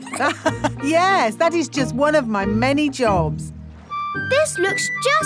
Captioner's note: laughs